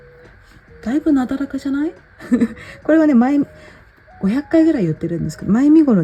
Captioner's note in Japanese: 笑い